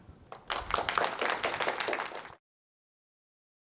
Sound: applause

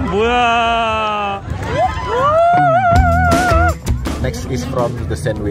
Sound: big applause

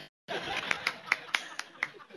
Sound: laughter

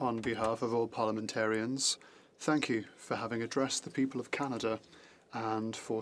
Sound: speaking Alternate Language; speaking French

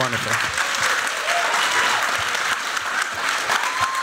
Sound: applause

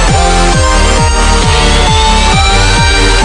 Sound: screech

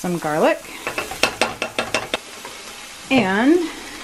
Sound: pan sizzling

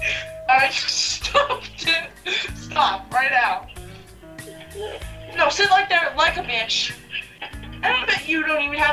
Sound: laughter

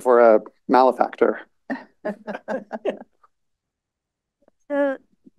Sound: laughter

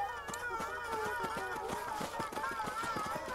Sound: loud footsteps as ponies pass

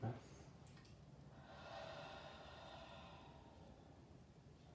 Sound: exhaling

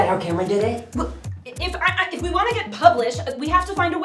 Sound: stammering

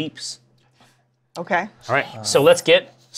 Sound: whispers

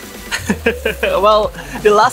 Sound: chuckles

